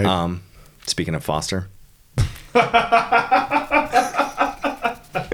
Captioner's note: both laughing